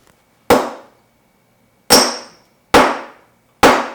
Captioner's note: hammer pounds